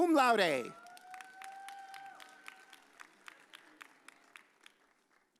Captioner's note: audience cheers